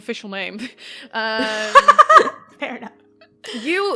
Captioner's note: laughs